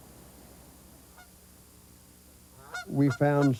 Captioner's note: geese honking